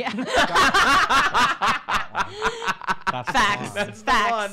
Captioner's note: uproarious laughter